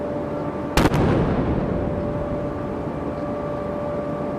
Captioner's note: cannon firing